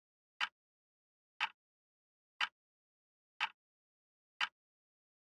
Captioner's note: tick